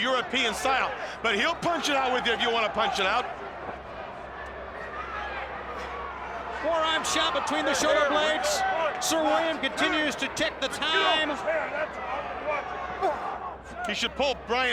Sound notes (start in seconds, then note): 3.3 crowd chatter